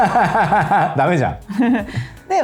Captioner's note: laughs